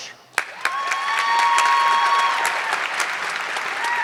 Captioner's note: audience clapping